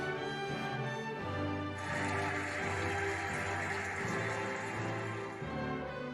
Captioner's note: cheering and applauding